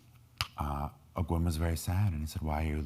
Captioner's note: speaking in foreign language